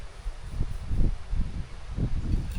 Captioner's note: wind blowing